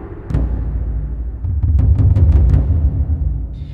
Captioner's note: dull sounds